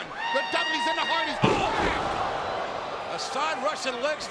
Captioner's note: bodies smashing